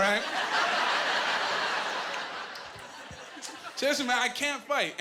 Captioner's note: laughing